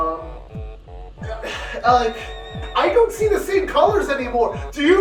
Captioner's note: sigh